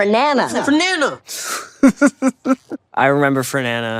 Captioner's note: Caleb laughs